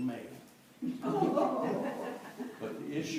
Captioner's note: laughter